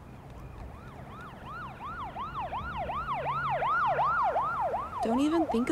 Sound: police sirens wailing

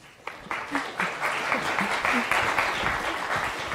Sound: audience applauds

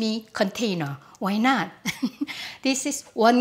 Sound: laughs

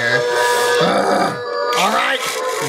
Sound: growls

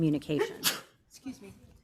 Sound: audience member sneezes

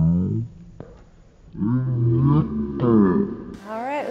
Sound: deep distorted voices

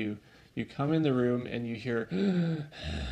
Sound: breathing Noises

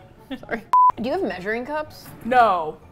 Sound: laughing quietly; beep; sarcastically

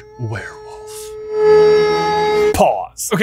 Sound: werewolf howling

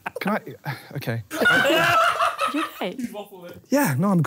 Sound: laughing

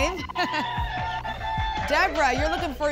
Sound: applause and cheering

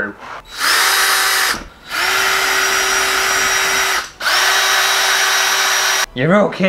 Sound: drill Noise

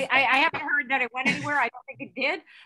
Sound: laugh

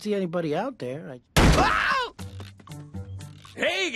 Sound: smack

